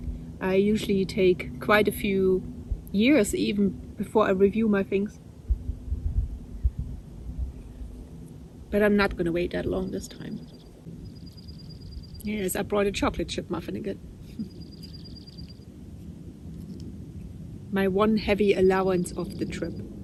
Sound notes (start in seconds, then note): 14.3 laughs